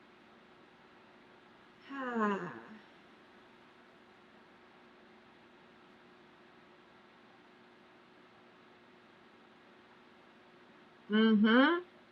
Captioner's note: sighs